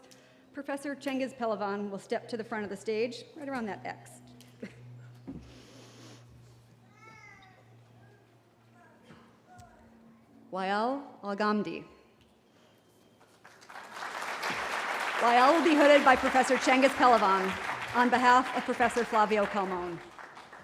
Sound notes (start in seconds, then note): 4.6 chuckles; 13.2 applause